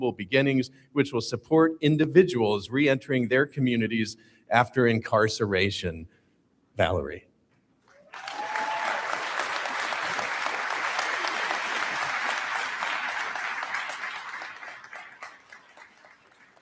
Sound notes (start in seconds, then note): 7.9 audience Applauds